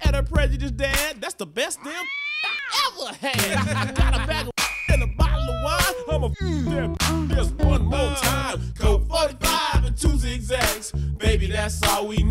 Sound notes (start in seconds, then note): 1.8 meows; 4.5 whistles; 5.9 moans